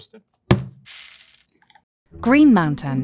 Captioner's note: bag thudding and coffee pouring